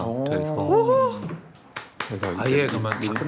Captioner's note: clap clap clap